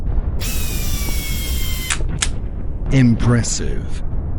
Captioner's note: gun whirring